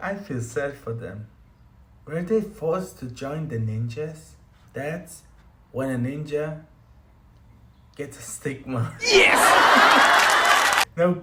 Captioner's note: applause